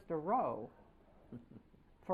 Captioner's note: laughter